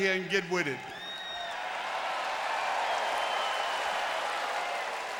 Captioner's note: audience cheering